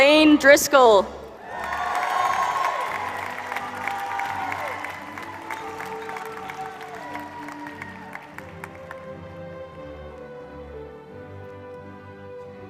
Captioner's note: applause